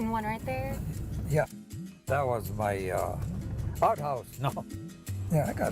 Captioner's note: chuckles